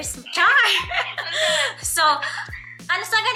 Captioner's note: laughing